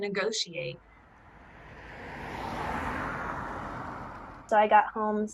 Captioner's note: cars driving